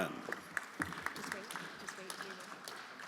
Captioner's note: everyone applauding